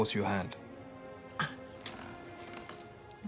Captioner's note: scoffs